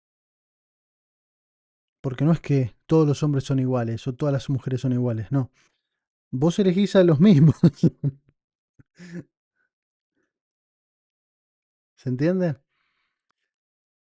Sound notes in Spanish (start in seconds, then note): 10.7 risas